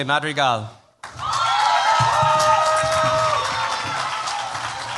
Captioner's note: cheers, applause